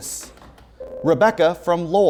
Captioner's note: ringing